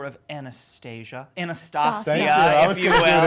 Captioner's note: laughs